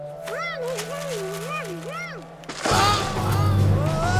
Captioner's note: humming; groaning; yelling